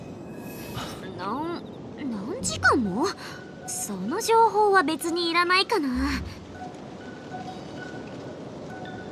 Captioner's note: sigh